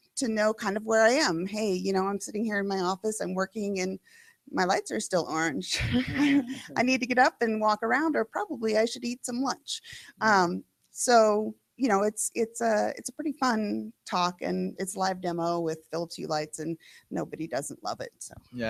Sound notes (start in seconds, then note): 5.7 laughter